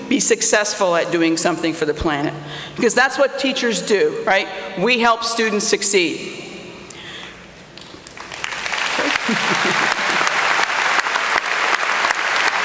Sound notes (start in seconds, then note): 7.8 applause